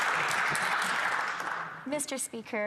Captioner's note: some Applause